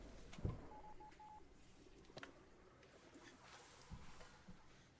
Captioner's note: phone beeping